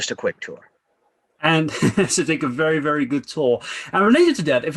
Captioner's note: laughs